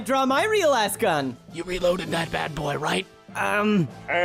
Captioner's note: whispering